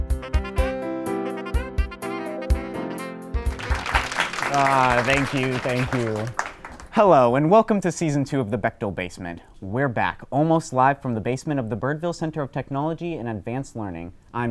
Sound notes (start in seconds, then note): 3.4 crowd applauding